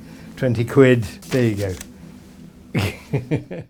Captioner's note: laughs